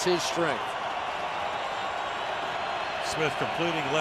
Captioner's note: cheering